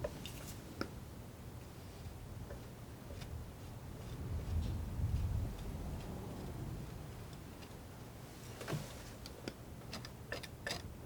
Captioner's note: noise of leaves